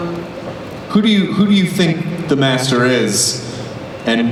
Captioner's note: voiceover